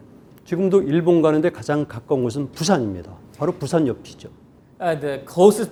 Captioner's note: speaking in Korean